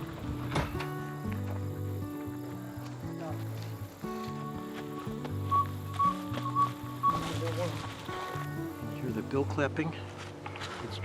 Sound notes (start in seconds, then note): 1.2 insects chirp; 5.4 owl hoots